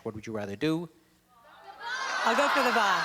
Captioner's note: audience Shouting